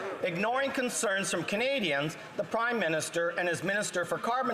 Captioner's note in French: voix de l'interprète